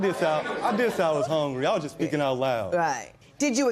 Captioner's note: laughter